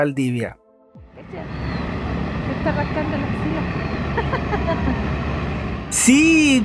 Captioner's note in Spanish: risas